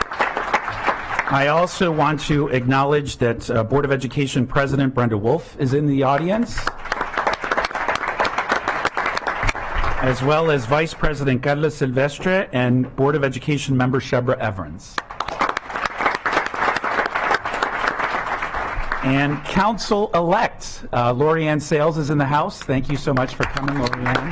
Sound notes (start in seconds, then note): 15.0 clapping